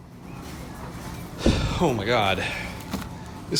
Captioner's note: still high on the excitement sigh